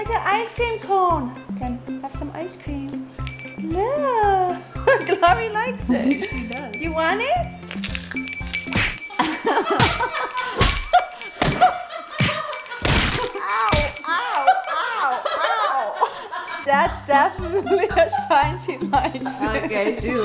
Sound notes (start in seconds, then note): 8.3 bell rings, laughter; 11.0 cartoon smacking sounds